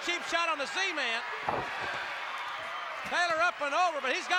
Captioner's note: applause